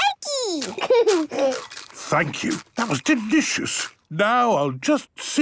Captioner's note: laughing, crunching